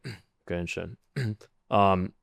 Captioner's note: clears throat